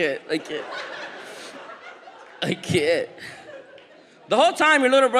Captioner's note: audience laughs